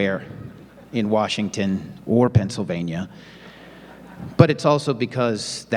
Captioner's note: audience laughing